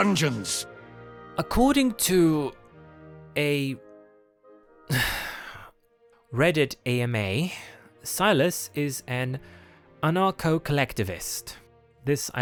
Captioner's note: sigh of disgust